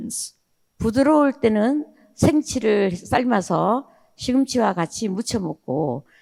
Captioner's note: speaking in foreign language